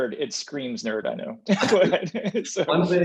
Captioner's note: speakers laughing